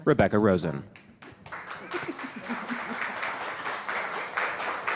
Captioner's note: audience clapping